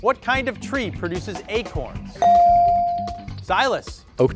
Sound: bell dings

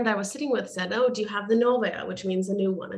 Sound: speaking russian

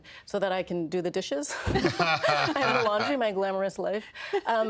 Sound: all laughing

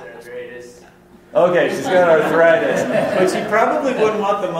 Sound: voiceover; laughter

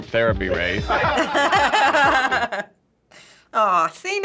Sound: laughing

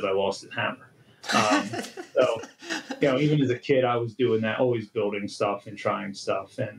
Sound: laughter

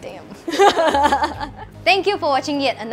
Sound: laughs

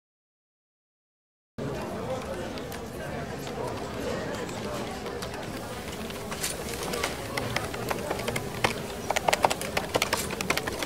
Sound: sound of office ambience

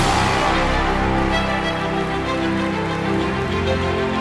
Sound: regal music; audience applause

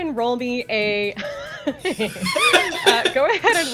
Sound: laughter

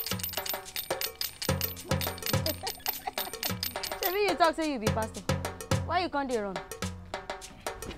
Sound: laughing

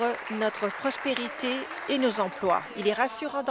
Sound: applause

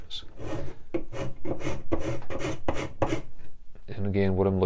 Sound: scraping

